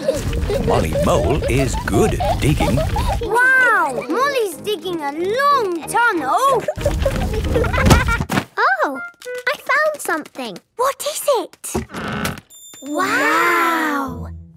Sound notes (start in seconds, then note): 6.8 thuds